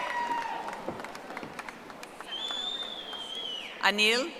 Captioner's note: audience applauding